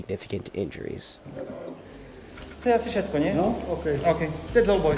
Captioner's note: slovak